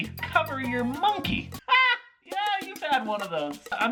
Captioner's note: laughing at his own unfunny jokes